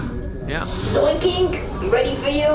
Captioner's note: alarm blares, door opens